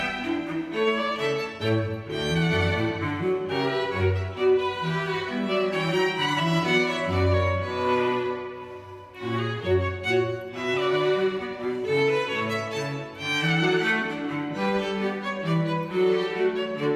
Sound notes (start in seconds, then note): none